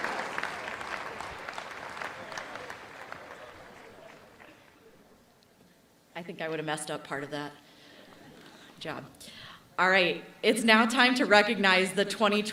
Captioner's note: applause